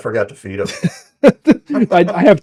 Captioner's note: laughing